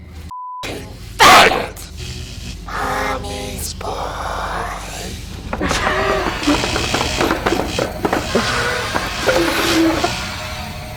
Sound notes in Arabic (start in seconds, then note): 5.4 موسيقى مشؤومة; 5.7 ضحك شرير